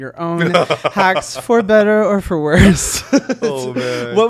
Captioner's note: chuckling